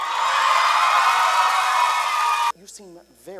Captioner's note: crowd cheers